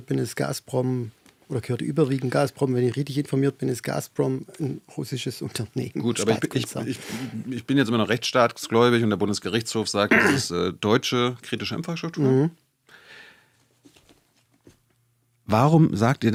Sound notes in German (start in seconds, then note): 10.1 räuspern